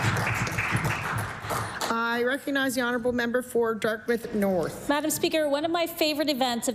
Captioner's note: applause